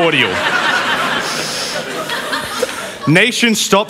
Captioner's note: laughter